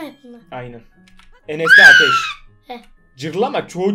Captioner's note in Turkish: bağırdı